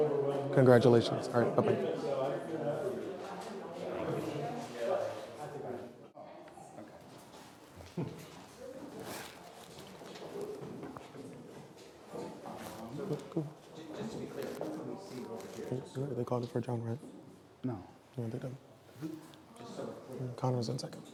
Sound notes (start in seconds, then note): 2.5 people chattering